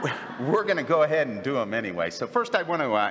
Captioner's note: laughter